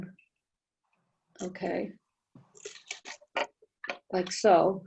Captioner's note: silence